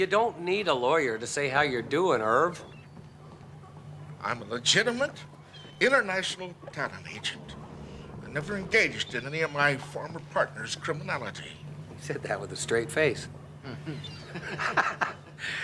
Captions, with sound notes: You don't need a lawyer to say how you're doing, Irv. I'm a legitimate international talent agent. I never engaged in any of my former partner's criminality. He said that with a straight face. (chuckles) (laughs)